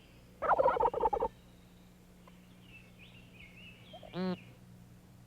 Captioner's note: turkey gobbling